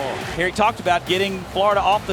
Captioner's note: voiceover